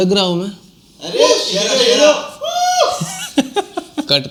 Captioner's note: crowd cheering